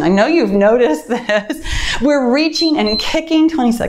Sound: timer beeps

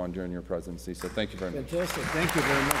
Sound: applause

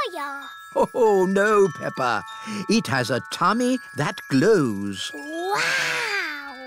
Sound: laughs

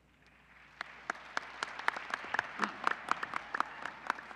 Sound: applause

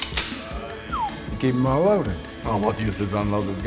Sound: whistle

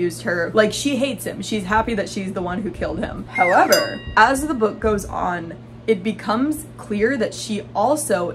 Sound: slide whistle sound

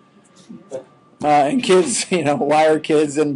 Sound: chuckling

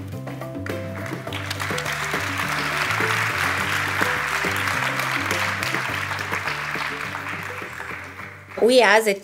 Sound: applause

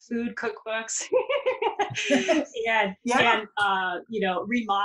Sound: laughs

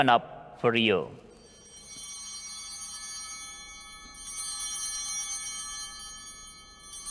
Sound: chimes ringing

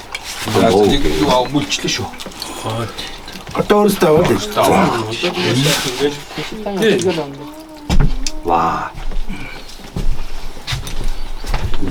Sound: speaking Mongolian

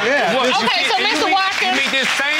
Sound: audience clapping

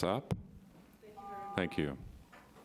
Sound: buzzer rings

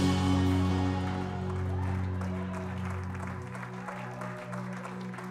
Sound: congregants applauding

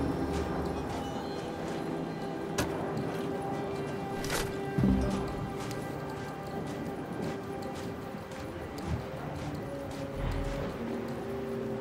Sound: footsteps

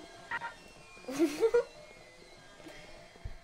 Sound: laugh

